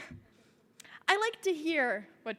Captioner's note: woman Laughs